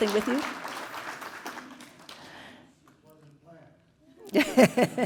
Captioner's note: applause; laugh